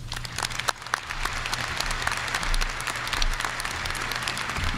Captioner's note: audience applauding